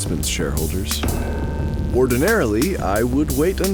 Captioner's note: A loud banging sound